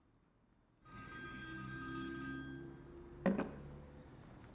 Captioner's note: phone ringing